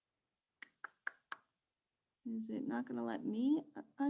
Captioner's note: smacks tongue rhythmically